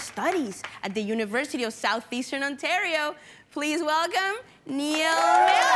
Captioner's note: cheering & applauding